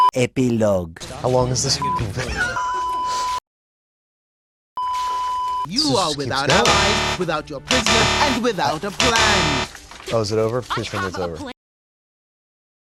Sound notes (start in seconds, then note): 2.1 laughing; 4.8 ʙᴇᴇᴇᴇᴘ; 9.6 stammering; 10.2 sᴄᴏғғs